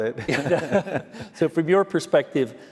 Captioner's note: laughter